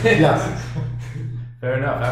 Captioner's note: laughs